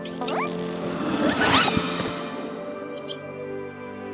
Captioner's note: caterpillar noises